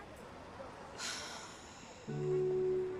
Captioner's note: sighing